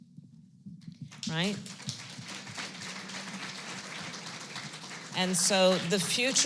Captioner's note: applause